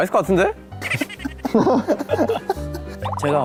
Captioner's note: صدای خنده ی حضار